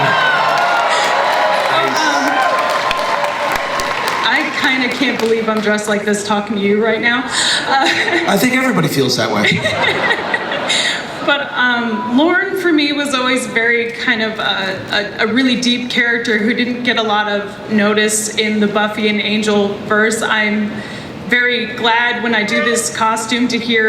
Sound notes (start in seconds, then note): 0.0 crowd cheers; 4.3 voiceover